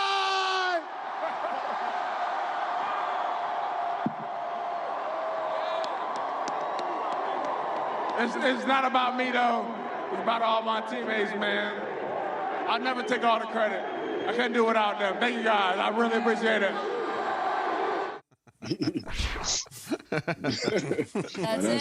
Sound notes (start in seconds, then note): 7.2 applause